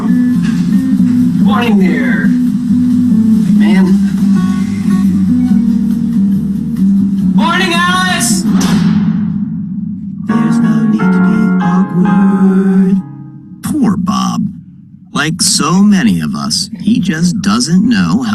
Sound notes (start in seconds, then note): 8.4 metallic clanging